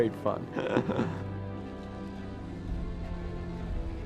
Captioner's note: laughs